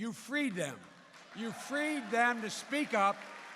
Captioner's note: applause